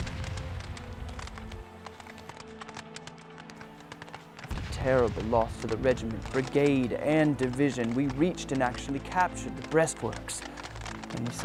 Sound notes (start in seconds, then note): 1.6 gun fire and cannon; 5.1 voiceover